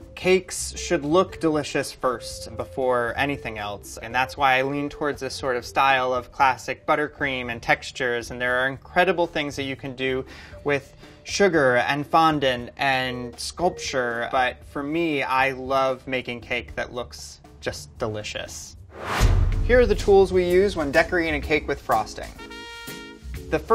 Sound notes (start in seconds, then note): 18.9 whooshing; 22.8 upbeat theme music